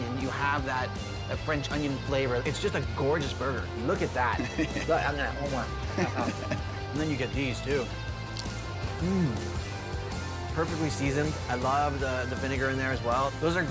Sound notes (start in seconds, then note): 5.8 chuckles; 8.3 John crunches